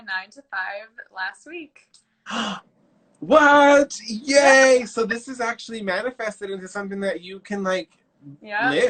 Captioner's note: gasp